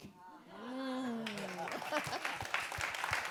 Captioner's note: audience claps; audience laughs